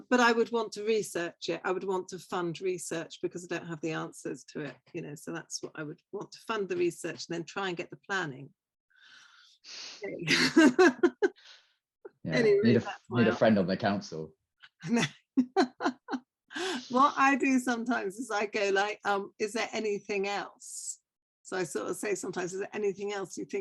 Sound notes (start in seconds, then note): 15.4 laughter